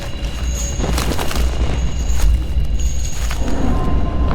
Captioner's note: wind whipping